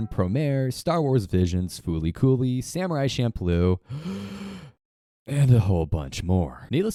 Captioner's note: deep breath